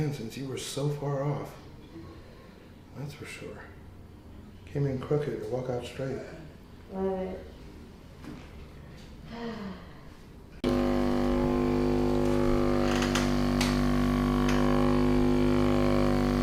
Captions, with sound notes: since you were so far off. That's for sure. Came in crooked, walking out straight. - Good. (sighing) (mechanical whirring)